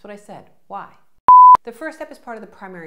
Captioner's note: beep